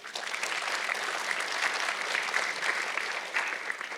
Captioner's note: audience clapping